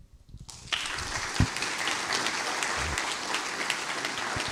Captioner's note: applause